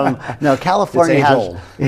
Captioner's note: laughter